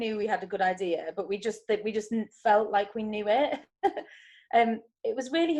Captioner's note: chuckles